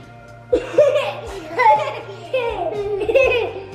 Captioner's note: laughing